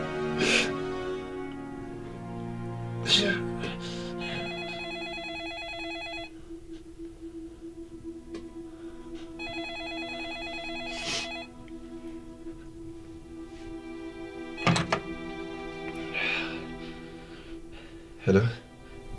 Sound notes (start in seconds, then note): 4.2 phone ringing